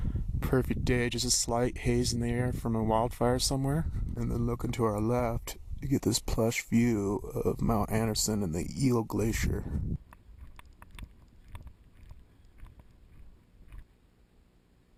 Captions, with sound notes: Pretty day, just a slight haze in the air from a wildfire somewhere. and then, looking to our left, you get this plush view of Mount Anderson and the Eel Glacier. **sounds of walking**